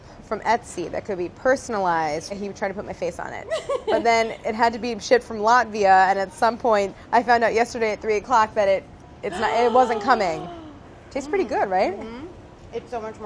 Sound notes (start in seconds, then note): 3.4 laughs; 9.3 gasps